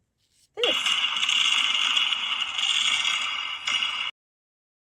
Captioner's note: fireworks bang